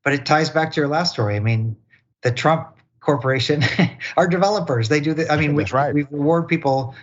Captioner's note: laugh